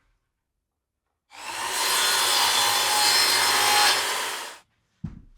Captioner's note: saw whirring; wood thudding